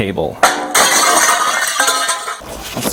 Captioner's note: glass smashing